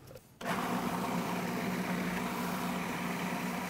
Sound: whirring

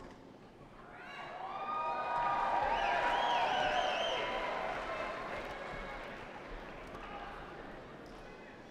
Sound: cheers and applause

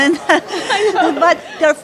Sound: laughter

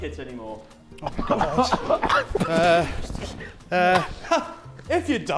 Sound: Sidemen laughing

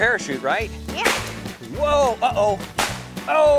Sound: firework pops

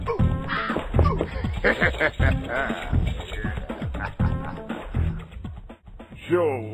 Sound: laughs

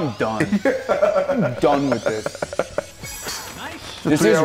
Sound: laugh

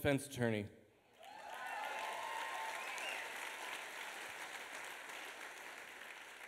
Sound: applause

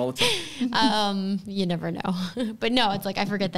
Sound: chuckles

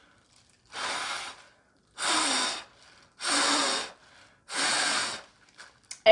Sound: blowing

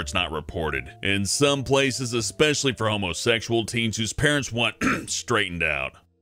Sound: cough

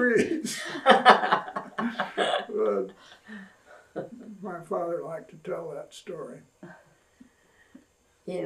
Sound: laughter

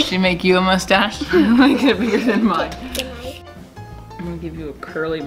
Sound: laughing

